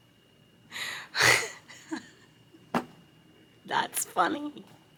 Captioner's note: laughing